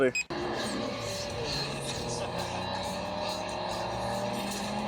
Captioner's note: cars revving